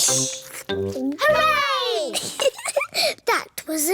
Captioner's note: giggles